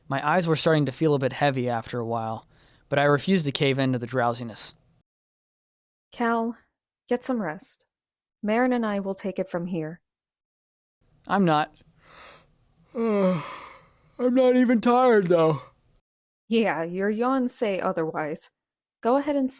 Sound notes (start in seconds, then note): 12.9 yawns